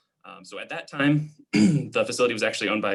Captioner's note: clearing throat